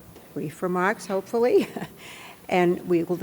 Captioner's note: laughs